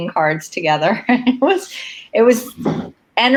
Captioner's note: laughs